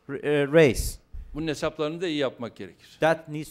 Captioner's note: non-english speech